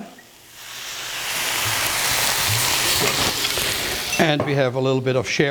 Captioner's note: sizzles